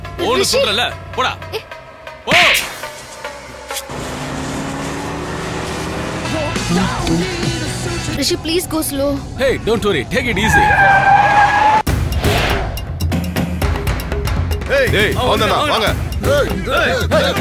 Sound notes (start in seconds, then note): 10.5 brakes squeak